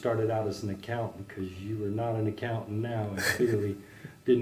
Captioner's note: laugh